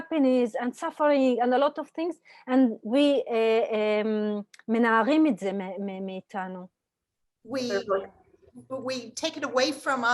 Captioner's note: Hebrew